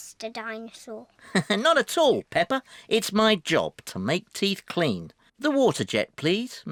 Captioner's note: laughs